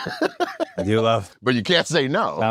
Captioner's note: laugh